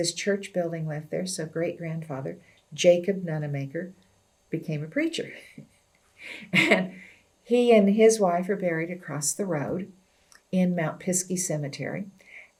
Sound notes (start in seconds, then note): 6.2 laughs